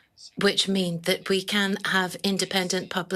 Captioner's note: speaking in French